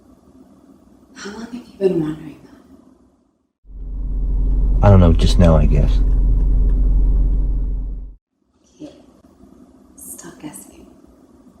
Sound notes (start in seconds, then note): none